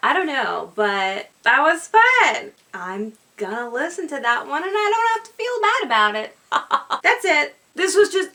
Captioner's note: laughs